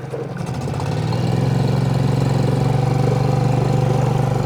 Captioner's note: motor burbling